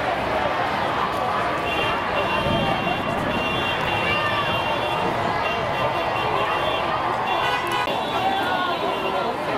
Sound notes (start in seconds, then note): 1.6 car horns